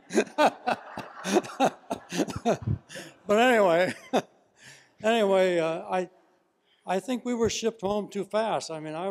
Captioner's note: laugh